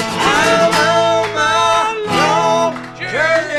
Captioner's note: applause